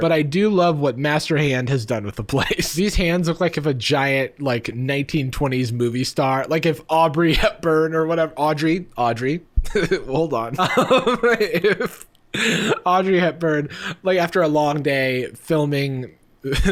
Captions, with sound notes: But I do love what Master Hand has done with the place. These hands look like if a giant 1920s movie star-- Like if Aubrey Hepburn or whatever-- Audrey. Audrey. Hold on (laughing). If Audrey Hepburn, after a long day of filming